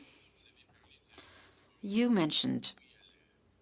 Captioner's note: speaking French